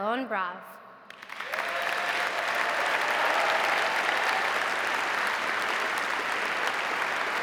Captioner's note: audience applauding; audience cheering